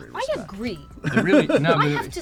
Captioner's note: laughs